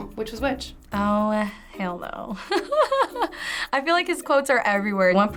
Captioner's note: laughs